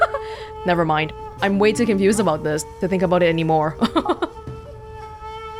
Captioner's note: chuckles; chuckles